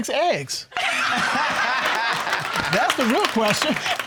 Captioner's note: all laughing